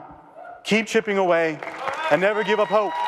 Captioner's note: audience applause and cheers